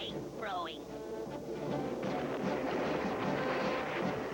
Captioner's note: thunder